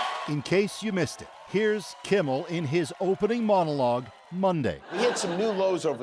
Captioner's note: applause